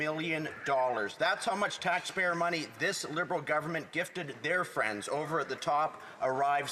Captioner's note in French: voix de l'interprète